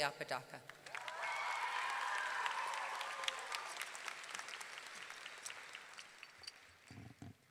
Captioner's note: audience clapping; audience cheering